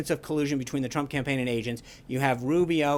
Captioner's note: Russian